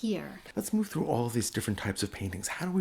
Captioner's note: voiceover